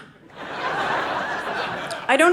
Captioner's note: audience laughing